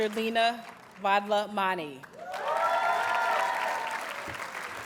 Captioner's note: audience cheers and applauds